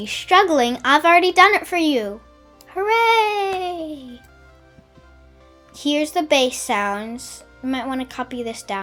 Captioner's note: hooray!